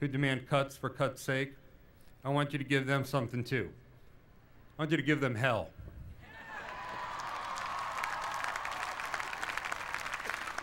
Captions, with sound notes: demand cuts for cuts sake, I want you to give them something too. I want you to give them hell. [APPLAUSE]